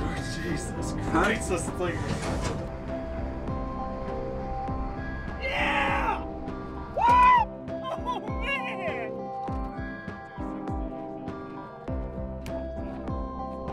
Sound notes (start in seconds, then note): 5.4 screams again